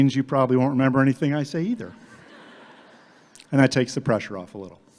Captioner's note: audience laughing